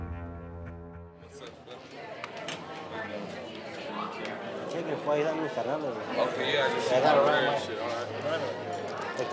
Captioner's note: people chatting